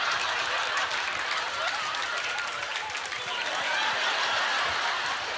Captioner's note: audience laughter